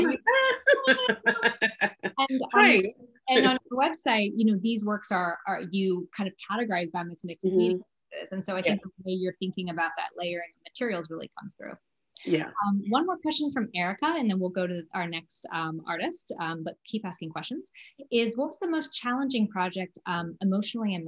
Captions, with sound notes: >> [LAUGH] Right.... >> The website these works are, you kind of categorize them as mixed media pieces. And so I guess it's the way you're thinking about that layering materials really comes through. One more question from Erica, and then we'll go to our next artist-- but keep asking questions--is what was the most challenging project emotionally